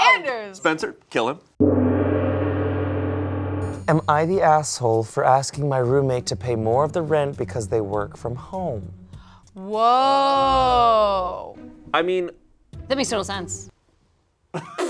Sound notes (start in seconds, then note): 0.0 laughs; 1.6 gong rings; 14.5 group laughs